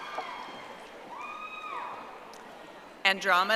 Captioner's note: audience applauding